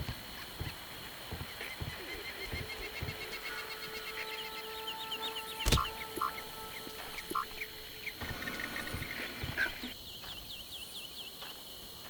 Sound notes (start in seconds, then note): 1.0 birds chirping; 5.6 gun fires